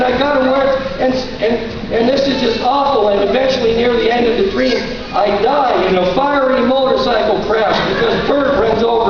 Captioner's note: stuttering